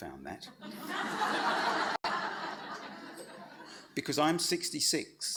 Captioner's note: audience laughs